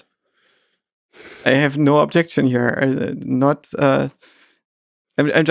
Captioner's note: Lex sighs